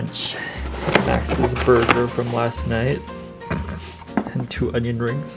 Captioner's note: snorts